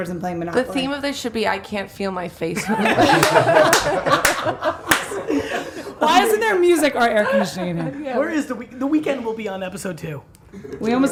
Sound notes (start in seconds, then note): 2.6 all laughing